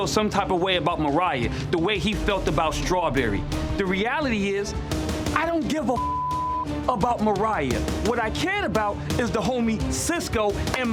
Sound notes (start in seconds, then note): 6.0 beep